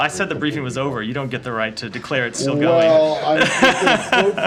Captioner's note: laughter